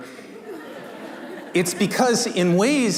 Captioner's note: laughter